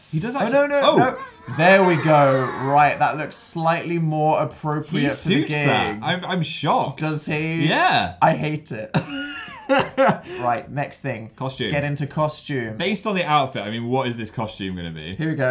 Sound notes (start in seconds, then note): 7.0 sceptical; 9.0 laughs